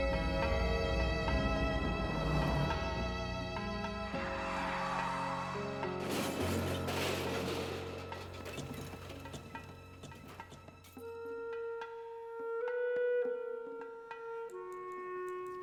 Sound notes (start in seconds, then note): 6.2 car crushes; 11.0 somber music